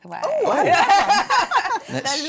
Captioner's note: laughing